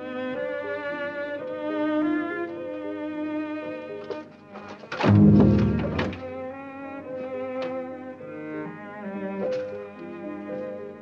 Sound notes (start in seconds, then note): 5.0 booming crash